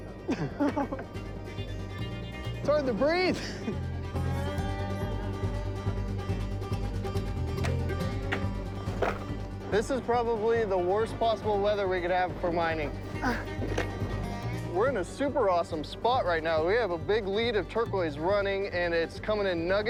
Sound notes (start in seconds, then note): 7.5 hat clattering